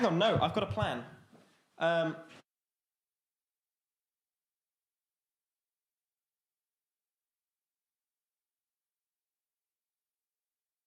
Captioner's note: audio cuts out